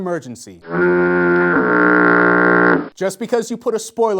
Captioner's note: foghorn